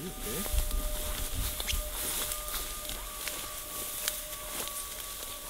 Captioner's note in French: bruit des pas dans le blés